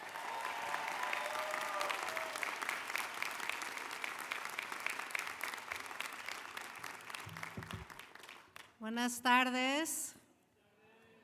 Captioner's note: applause